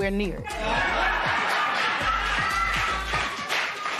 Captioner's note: laughter